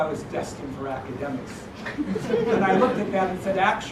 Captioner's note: laugh